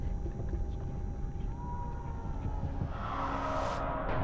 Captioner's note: faint screaming